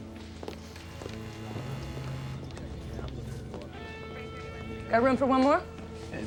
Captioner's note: footsteps thudding; door buzzing